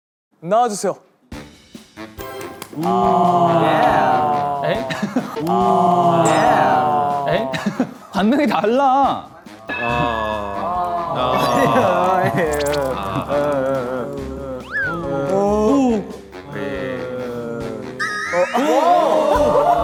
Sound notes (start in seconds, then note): 5.2 boo; 5.4 cheers